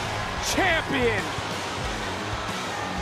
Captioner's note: bell rings